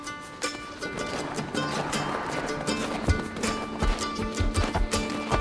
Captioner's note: snow crunches